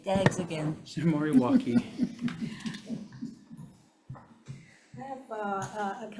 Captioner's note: chuckling